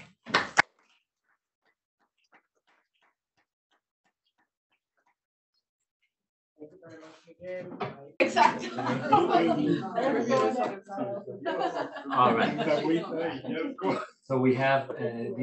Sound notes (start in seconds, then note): 0.0 applause; 6.6 chatter; 11.4 laughing